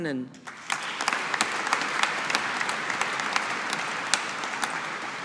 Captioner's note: audience applauding